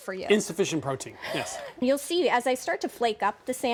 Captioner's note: none